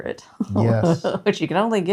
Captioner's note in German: lacht